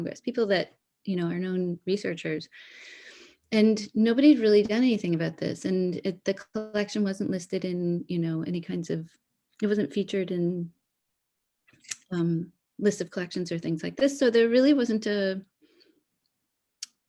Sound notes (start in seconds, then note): none